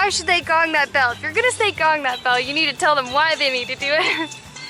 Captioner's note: laughter